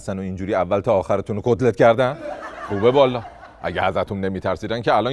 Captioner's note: laughter